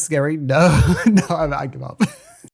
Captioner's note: laughs